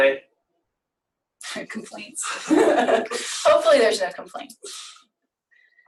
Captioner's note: laughs